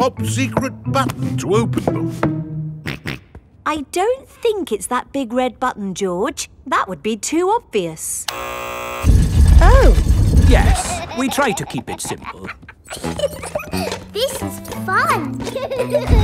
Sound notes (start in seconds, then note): 2.8 snorts; 8.3 buzzer sounds; 13.0 giggles